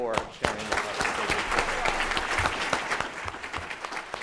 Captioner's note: applause